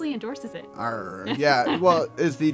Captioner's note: laugh